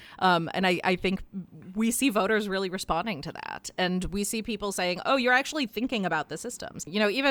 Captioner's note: none